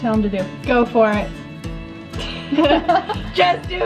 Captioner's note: both laugh